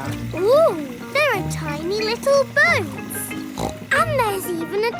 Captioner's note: snorts